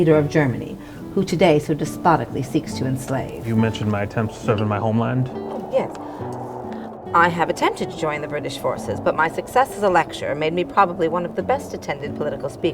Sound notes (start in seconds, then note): none